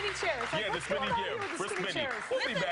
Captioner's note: applause